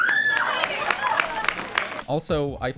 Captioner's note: applause